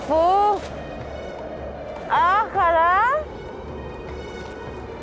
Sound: speaking foreign language

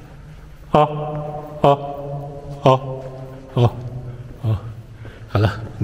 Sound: echos

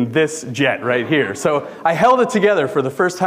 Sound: audience laughing

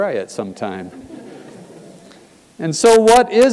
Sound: laugh

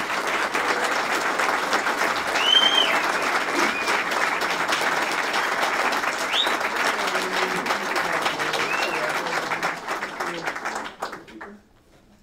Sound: applause

